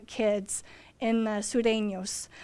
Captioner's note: foreign language